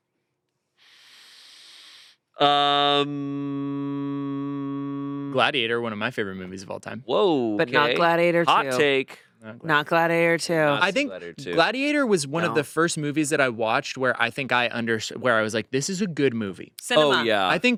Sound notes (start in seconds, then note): none